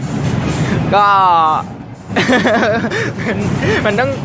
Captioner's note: laughter